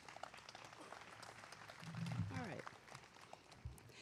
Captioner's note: applause